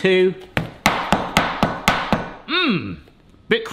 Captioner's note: steak smacking on counter